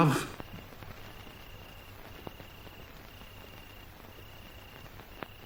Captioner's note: crickets chirping